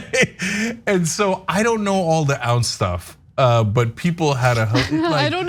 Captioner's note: laugh